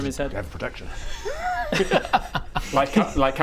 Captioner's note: laughs at super subtle double entendre